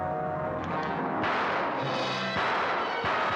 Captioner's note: ominous music; gun firing